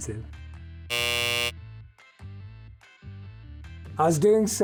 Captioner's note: buzzer buzzes